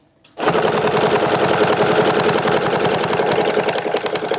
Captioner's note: machine whirring